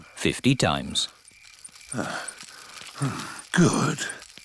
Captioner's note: panting